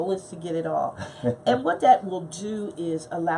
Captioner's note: chuckles